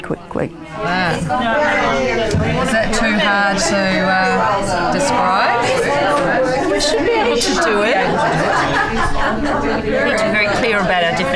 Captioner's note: audience chatter